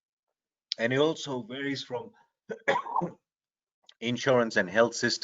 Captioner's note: coughs